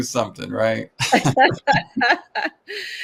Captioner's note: laughter